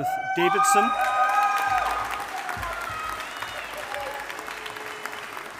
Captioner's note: audience applauding